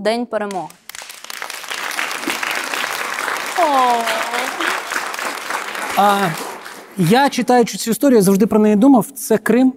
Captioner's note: applause